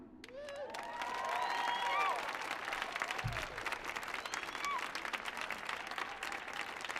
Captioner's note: audience clapping; audience cheering